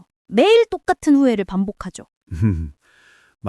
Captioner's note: laughs